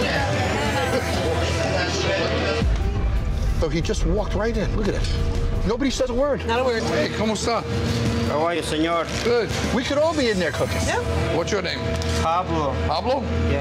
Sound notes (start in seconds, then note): 7.3 speaks foreign language